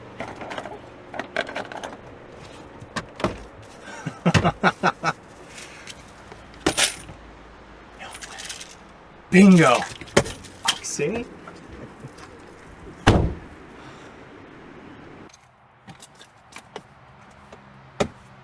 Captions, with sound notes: (objects clattering) (Patrick laughs) (objects clinking) - No way! (pills rattling) Bingo! Oxy! (objects clattering)